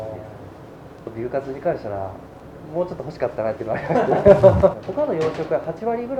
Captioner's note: laughs